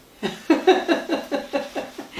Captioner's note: laughter